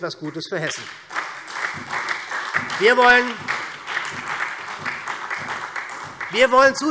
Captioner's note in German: Beifall SPD